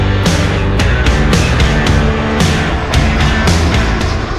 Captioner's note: jet Engine